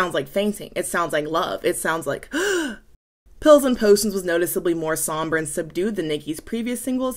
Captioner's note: gasp